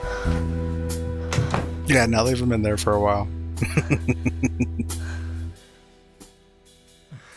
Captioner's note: laughing